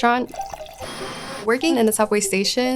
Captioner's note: water gushing; machine whirring